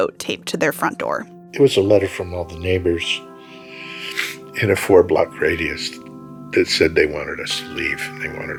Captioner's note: crying